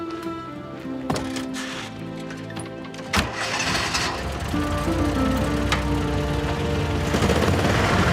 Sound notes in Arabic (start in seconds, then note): 3.0 يُغلق الباب وبدء تشغيل السيارة